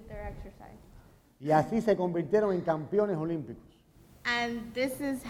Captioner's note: speaking in Spanish